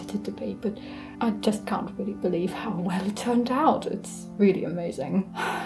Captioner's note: sighs